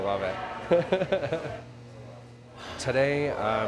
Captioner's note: laughing